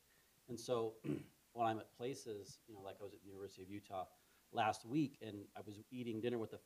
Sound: cough

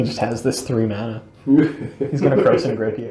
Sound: laughs

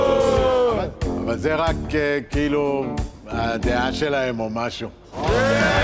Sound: cheering

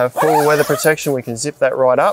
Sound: zipper pulls

